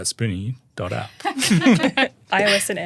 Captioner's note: everyone laughing